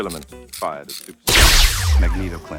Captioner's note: weapon whooshes